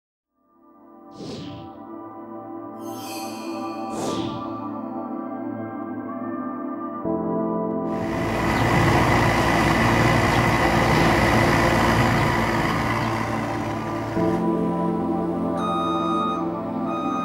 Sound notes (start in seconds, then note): 7.9 sounds of heavy machinery